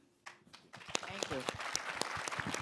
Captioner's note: applause